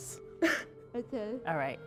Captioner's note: chuckles